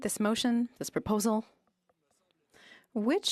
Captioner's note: speaking French